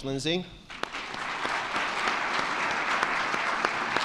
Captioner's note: all clapping